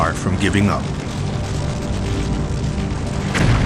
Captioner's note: flames crackle